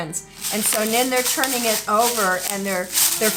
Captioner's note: pebbles jiggling